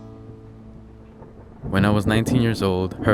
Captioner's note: thunder rumbling